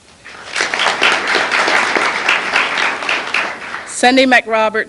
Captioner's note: applause